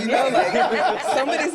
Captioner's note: group laughs